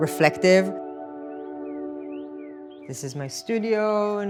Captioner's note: birds chirping; tranquil music